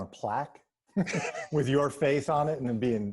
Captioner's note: laughing